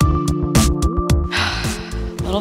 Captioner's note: sighs